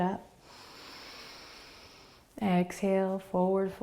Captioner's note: inhaling